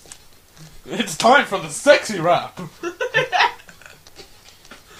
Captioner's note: laughter